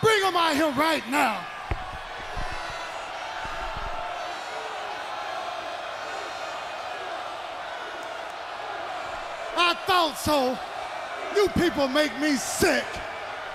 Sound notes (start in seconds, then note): 2.5 crowd cheering